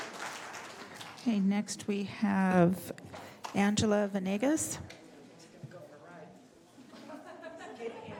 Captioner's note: applause